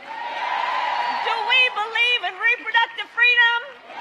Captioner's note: cheers